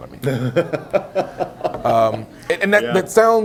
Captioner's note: laughs